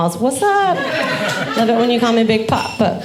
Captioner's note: audience laughing